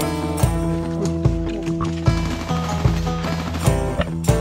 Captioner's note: shooting sounds